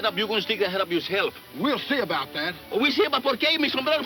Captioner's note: speaking in foreign language